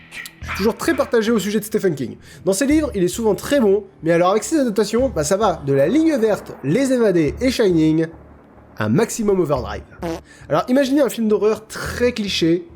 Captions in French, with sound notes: je suis toujours très partagé sur le sujet de Stephen King. Dans ces livres il est souvent très bon mais alors avec ses adaptations, bah ça va de : La Ligne verte, les Évadés et Shinning À Maximum Overide *bruit de pet* Alors imaginez un film d'horreur très cliché